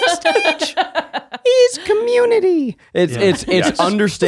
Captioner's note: laughing